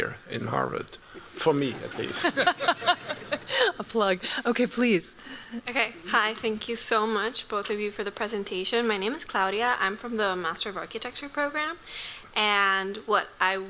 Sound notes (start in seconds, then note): 1.4 laughter